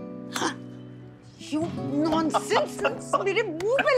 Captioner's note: Rohit laughing